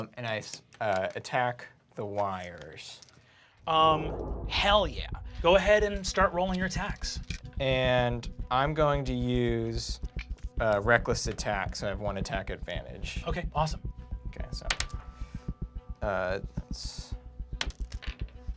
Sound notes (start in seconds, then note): 14.8 die clatters